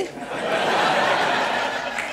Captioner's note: laughter